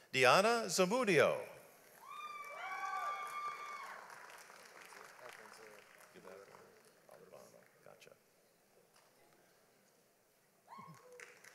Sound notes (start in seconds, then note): 2.0 audience applauds; 6.1 men speaking faintly